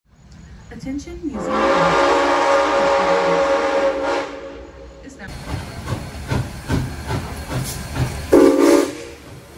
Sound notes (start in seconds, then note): 1.3 train whistle blowing; 6.0 locomotive chuffing, whistle blowing